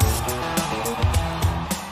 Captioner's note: crowd cheering